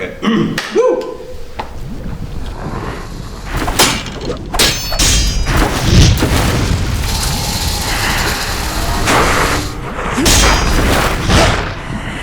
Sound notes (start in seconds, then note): 0.0 clears throat; 3.7 sword clanks; 7.1 rattling; 9.9 grunting